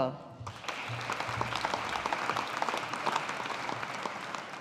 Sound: audience applauding

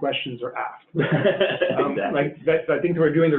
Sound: laughing

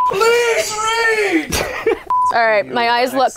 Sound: laughing

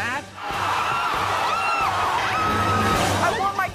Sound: crowd jeers

